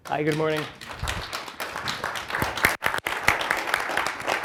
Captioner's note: applause